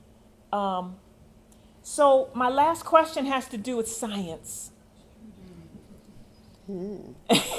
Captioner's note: laughter